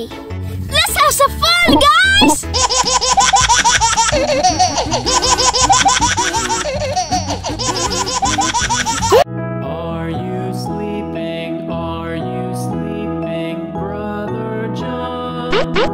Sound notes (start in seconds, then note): 1.8 babies laughing